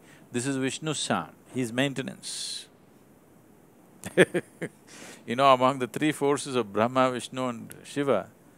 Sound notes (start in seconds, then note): 4.0 laughs